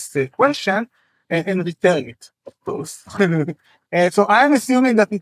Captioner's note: chuckles